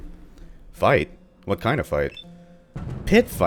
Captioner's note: thunder